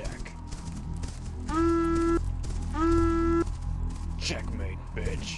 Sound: horn sounds

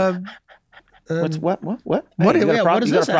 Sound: snickering

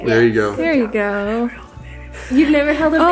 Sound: whispers

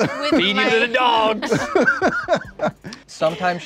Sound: laughs; all laughing

